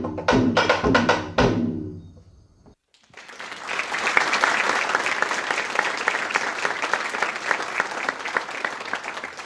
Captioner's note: applause